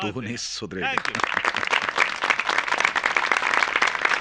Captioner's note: applause